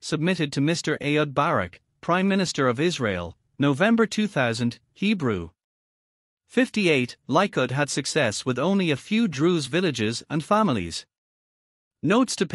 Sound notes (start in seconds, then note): 5.4 Hebrew